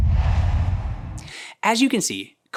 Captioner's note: logo swooshes